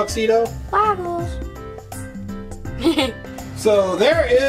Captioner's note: laughing